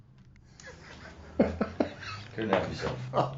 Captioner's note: laughing